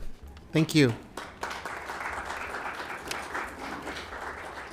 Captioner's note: applause